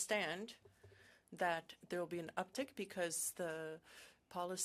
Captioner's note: speaking French